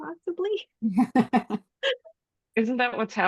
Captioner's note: laughter